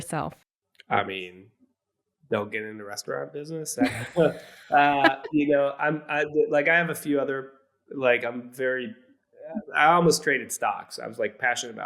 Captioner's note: laughs